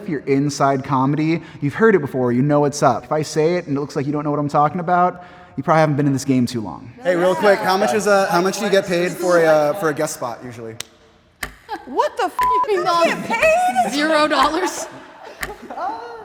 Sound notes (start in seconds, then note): 12.3 beep